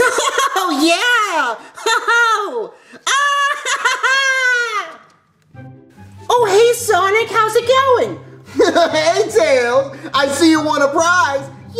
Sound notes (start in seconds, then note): 3.1 cheering